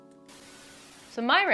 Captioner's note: static